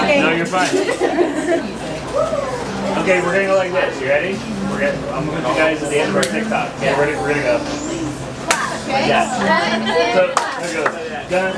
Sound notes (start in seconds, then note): 0.7 laughing; 8.5 clap